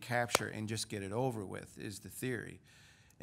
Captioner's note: claps